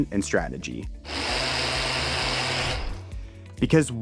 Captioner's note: blender whirring